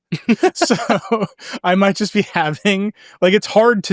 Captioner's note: laughs